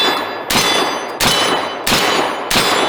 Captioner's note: gunshots